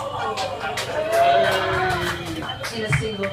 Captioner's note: audience laughs; audience cheers